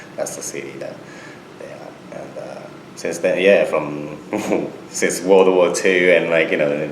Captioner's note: laughs